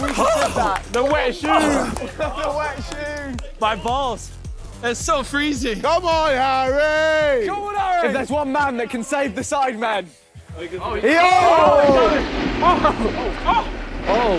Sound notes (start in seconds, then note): 10.8 contestants yelling; 11.4 board sliding